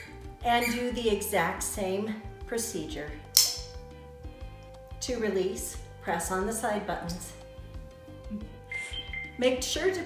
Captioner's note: squeaky toy squeaking